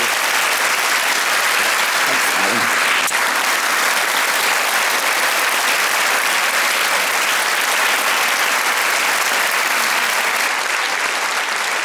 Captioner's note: applause